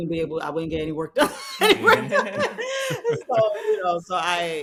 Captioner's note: laughing